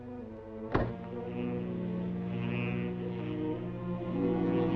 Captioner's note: machine buzzing